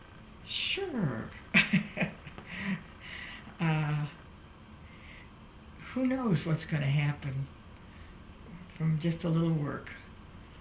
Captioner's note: laughs